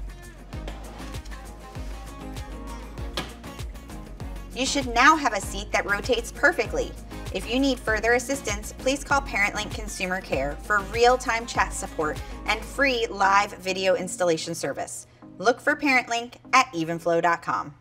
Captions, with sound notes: (upbeat music) (car seat snapping) (upbeat music) You should now have a seat that rotates perfectly. If you need further assistance, please call Parentlink® Consumer Care for realtime chat support and free live video installation service. Look for Parentlink® at evenflo.com.